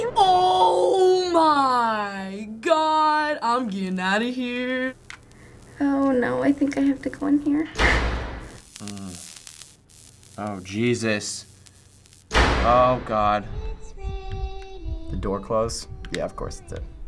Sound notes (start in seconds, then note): 7.6 booming noises; 8.5 static noises; 12.0 booming noises; 13.5 child sings